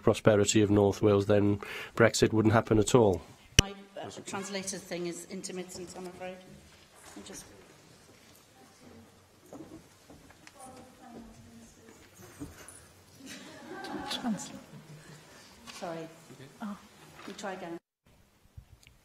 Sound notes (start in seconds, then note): 13.2 laughter